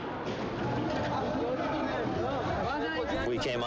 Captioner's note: speaking in a foreign language